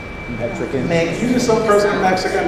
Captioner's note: audience responses